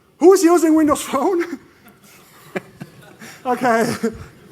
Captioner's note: laughter